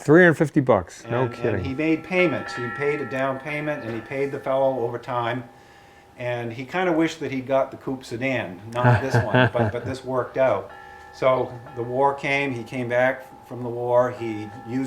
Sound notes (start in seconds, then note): 8.7 laughing